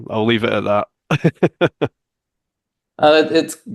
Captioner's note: laughs